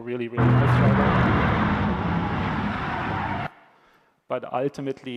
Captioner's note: car screeching